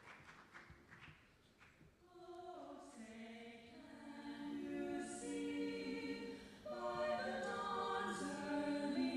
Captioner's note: applause